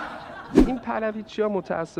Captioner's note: laughter